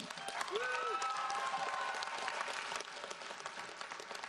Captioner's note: audience applauds